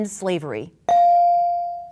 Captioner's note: bell dinging